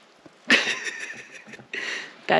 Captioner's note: laughter